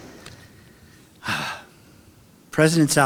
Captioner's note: sighs